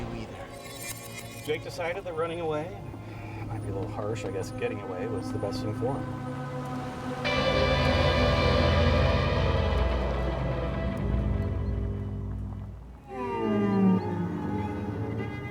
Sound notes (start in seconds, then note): 7.7 startling tone; 12.1 unsettling music